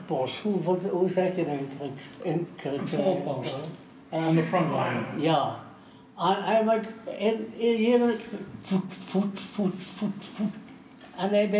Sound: foreign language

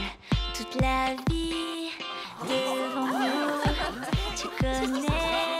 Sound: all exclaiming

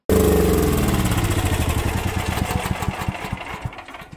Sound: generator rumbling

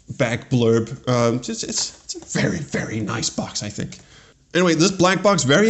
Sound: stutters

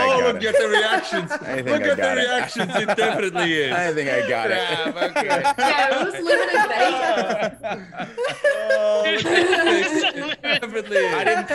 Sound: laugh

